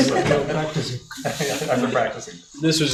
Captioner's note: laughing